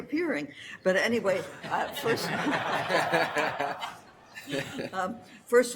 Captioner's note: audience laugter